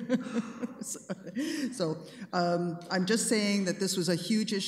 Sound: laughing

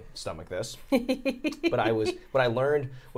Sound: Safiya laughing

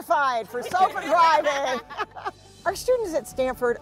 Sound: everyone laughs

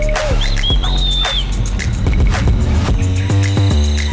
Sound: whistles; electronic dance music continues

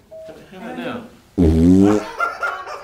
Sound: flatulence

